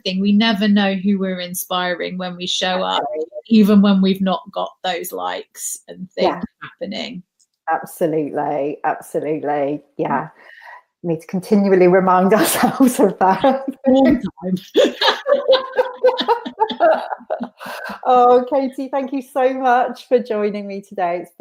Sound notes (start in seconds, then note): 14.6 laughs